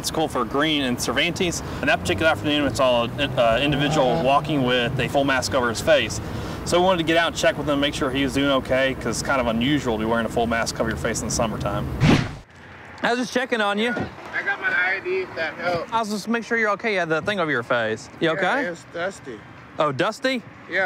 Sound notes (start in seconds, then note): 12.0 whoosh